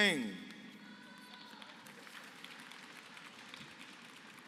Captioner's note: applause